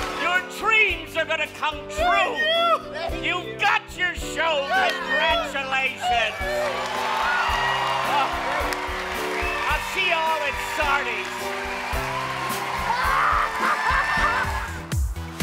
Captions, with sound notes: Your dreams are going to come true! You've got your show! Congratulations! [cheers] I'll see you all at Sardi's. [cackles]